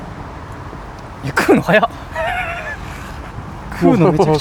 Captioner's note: laughs